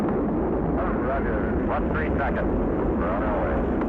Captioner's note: rocket engine rumbling